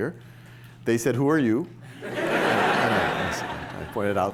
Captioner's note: laughter